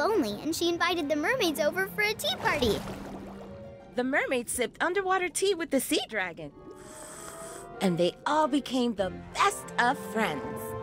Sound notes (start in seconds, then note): 6.5 sipping